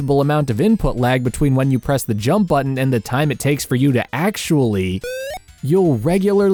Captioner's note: jump sound effect